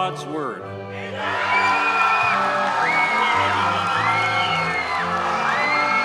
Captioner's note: audience cheers and applauds